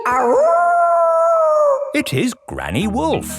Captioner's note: howling